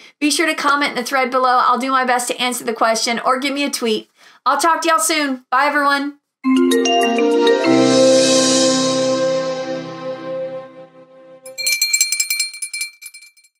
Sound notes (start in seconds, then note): 6.4 bright marimba music; 11.4 bell ringing